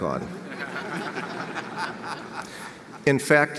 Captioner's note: audience laughs